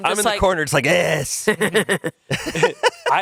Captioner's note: laughs